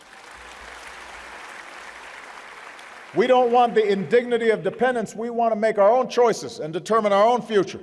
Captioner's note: applause